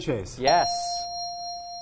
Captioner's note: ding